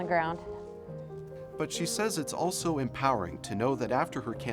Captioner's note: voiceover